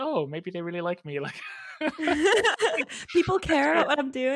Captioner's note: laughing